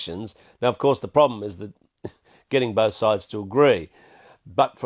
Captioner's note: laughs